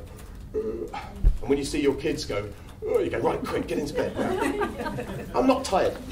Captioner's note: yawns